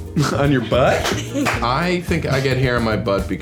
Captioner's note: laughing